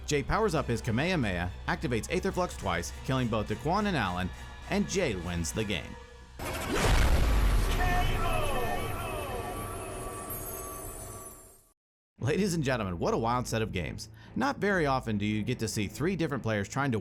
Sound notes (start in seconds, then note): 6.7 smashing sound